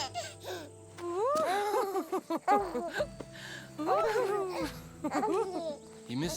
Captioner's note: giggling baby noises; laughing